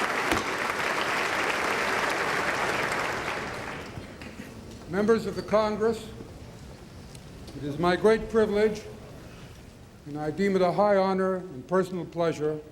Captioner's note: applause